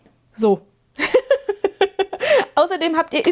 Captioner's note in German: gelächter